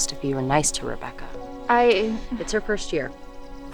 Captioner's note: Riley stammering